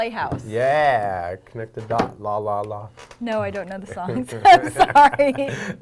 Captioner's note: laughing